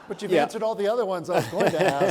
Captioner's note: audience laughs